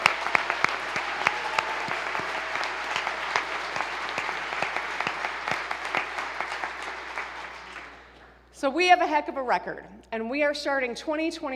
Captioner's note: applause